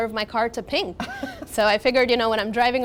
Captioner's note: laughs